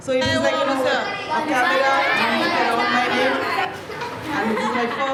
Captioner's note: chatter